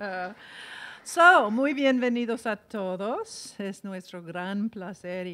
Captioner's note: in foreign language